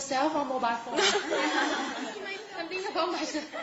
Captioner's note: laughing